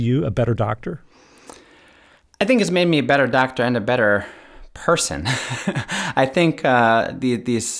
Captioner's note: laughter